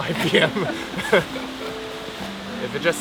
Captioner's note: both laugh